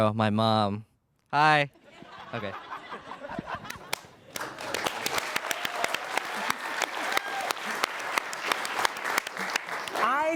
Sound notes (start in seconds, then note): 1.8 audience laughing; 3.6 audience applauding